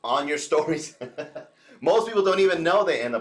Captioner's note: chuckles